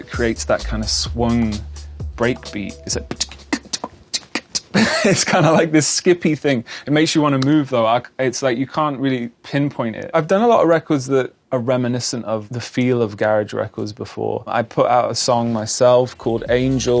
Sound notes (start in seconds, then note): 2.6 imitates swung break beat; 4.2 chuckles